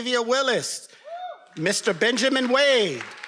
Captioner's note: attendees cheering and applauding